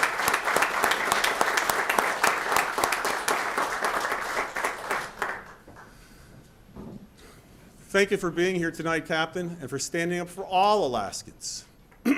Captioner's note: applause